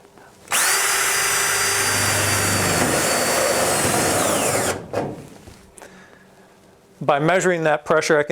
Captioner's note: drilling Sound